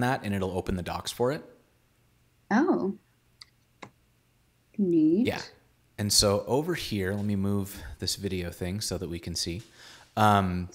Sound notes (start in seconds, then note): none